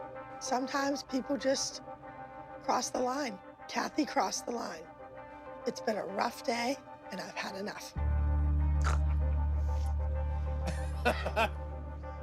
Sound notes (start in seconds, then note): 8.8 snorts; 10.6 laughs